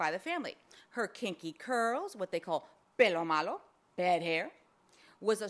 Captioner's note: speaks foreign language